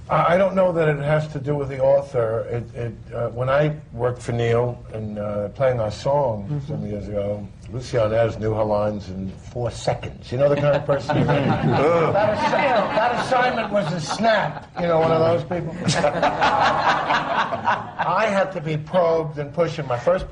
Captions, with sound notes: I ... I don't know that it has to do with the author. It ... it ... when I worked for Neil in PLAYING OUR SONG, some years ago. Lucie Arnaz knew her lines in four seconds. You know the kind of person ... (LAUGHTER, VOICES OVERLAP) You know, one of those people? (LAUGHTER) I had to be probed and pushed, and my first ...